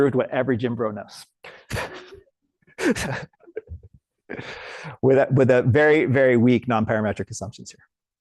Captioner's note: laughs